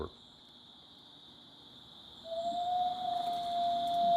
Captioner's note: nature sounds